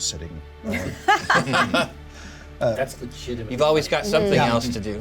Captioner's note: laughter